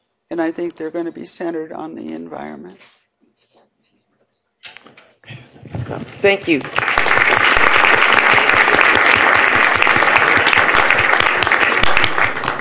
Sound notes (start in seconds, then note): 6.0 audience applauding